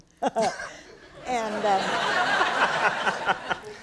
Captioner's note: laughing